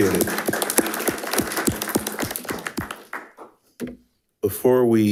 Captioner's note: attendees applauding